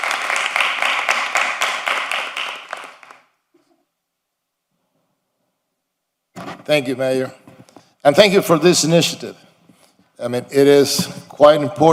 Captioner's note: applause